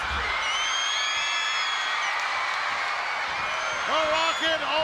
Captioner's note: audience cheers